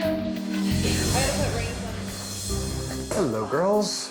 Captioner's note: contestants chattering